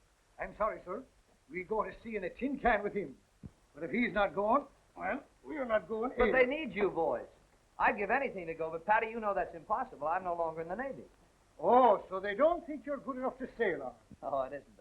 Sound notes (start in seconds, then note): none